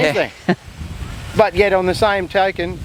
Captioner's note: chuckles